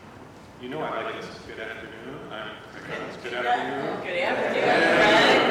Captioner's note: laughter ... everyone says good afternoon